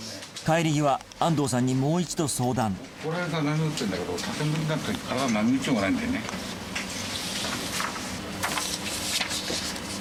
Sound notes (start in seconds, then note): none